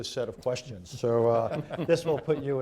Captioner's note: laughter